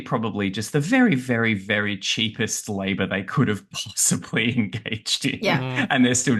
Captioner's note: laughs